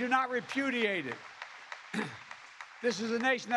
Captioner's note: applause